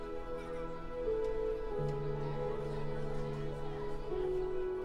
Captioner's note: children chattering